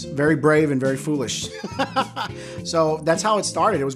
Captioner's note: laughs